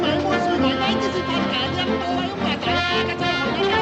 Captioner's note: man speaking Chinese